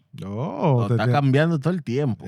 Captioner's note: speaking Spanish